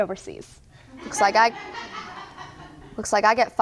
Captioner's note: audience laughs